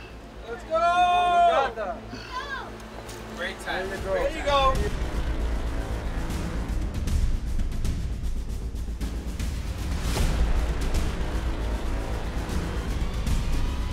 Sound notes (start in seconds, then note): 0.8 cheering